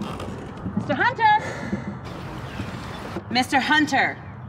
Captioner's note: Travis sighs